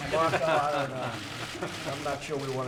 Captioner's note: laughter